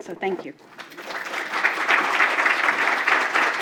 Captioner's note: applause